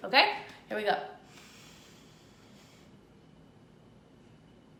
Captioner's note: breathes deeply